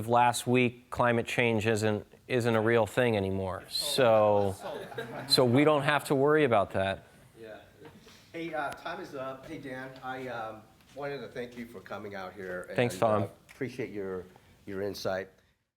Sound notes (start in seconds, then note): 3.9 laughing